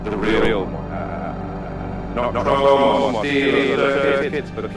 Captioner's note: voice echoing